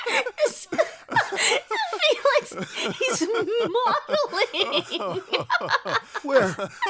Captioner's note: laughs